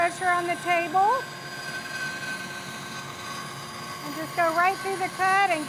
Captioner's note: sawing